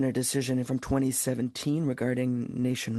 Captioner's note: speaking French